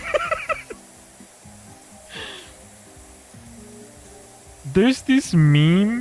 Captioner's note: laughter